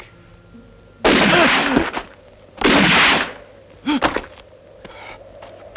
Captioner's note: cries out; gun firing